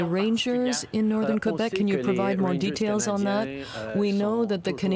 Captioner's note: speaking French